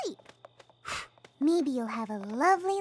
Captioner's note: blows